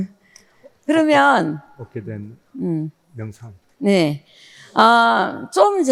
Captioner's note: both speaking in foreign language